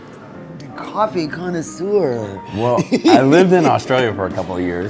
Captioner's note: laughs